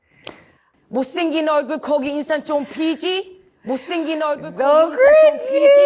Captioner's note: speaking in Korean